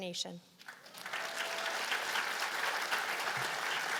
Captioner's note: applause